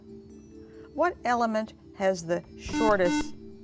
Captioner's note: buzzer